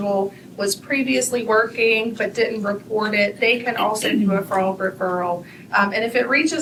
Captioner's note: clears throat